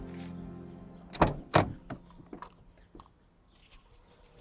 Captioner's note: gloves snapping; door thuds